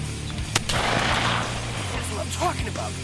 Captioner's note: gun firing